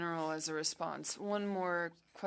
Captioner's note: speaking French